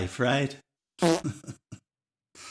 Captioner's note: fart sound